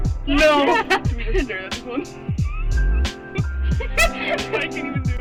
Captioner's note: laughter; laughter